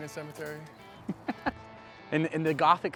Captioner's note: laughing